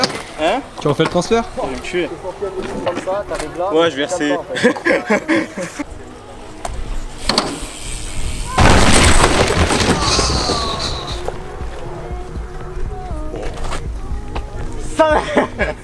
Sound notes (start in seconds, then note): 4.4 laugh